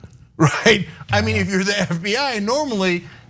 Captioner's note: laugh